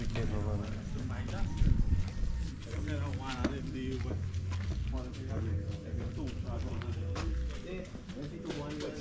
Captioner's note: murmurs from the streeet